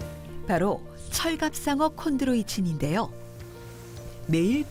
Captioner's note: voiceover